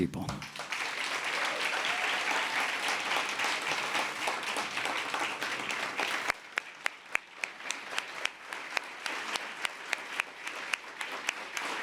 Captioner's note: applause